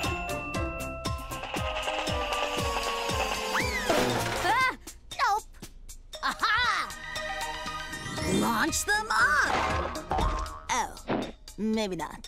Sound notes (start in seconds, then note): 3.1 crashing